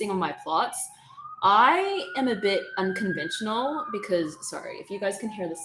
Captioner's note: siren sounding in background